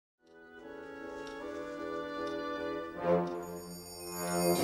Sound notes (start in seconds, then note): 3.2 clock ringing